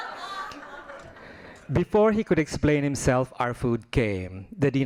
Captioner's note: laughing